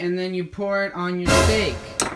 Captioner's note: scare sound